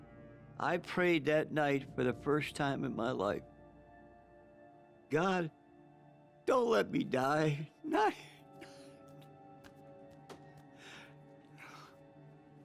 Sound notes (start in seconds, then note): 7.7 crying